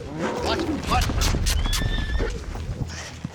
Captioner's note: horse neighing